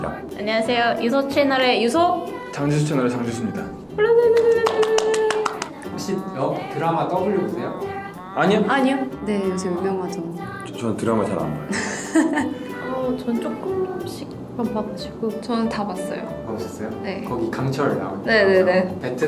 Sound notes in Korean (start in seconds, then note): 4.3 박수